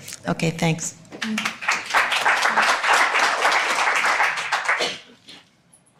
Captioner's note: audience applauding